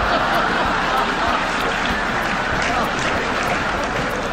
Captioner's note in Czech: smích publika